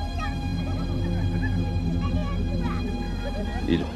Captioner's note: children shouting